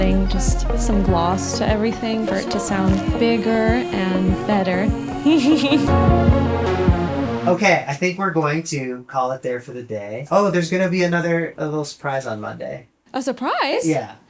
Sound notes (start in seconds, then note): 5.2 laughs